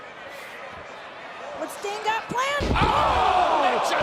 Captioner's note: crowd chatter